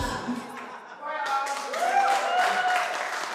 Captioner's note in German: Musik stoppt; Jubel, Applaus